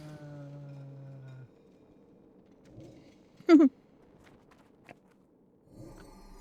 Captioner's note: laughter